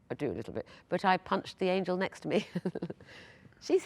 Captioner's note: laughs